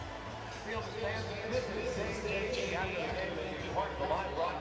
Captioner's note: pa announcement